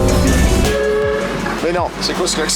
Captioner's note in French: Klaxon